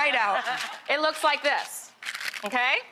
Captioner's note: Tiffany and audience laughing